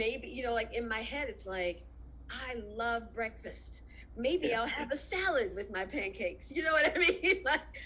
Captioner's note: laughs